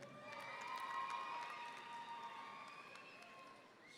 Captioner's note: audience cheering